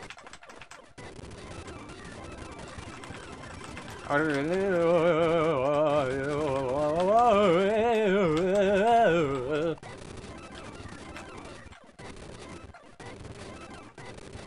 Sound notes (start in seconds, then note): 4.1 rapidly pitch shifting throat sounds